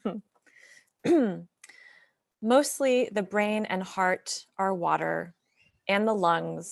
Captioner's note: clears throat